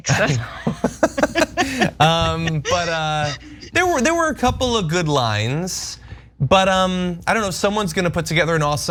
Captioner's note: laugh